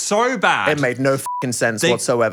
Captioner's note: beep